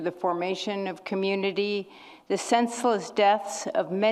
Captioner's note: none